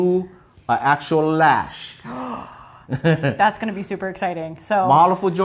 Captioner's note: gasps